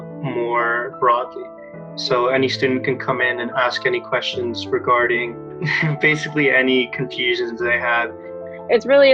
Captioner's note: chuckles